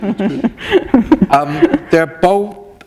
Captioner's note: chuckle